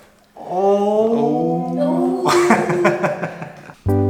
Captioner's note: laughing